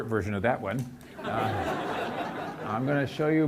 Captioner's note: audience laughs